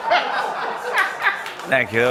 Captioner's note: laughter